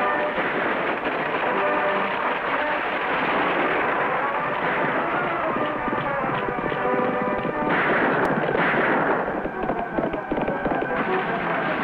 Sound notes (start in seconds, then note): 0.2 dramatic music; 7.4 guns fire; 9.2 horse hooves thunder; 11.6 guns fire